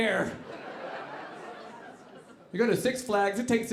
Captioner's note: audience laughing